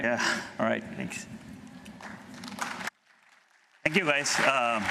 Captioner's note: applause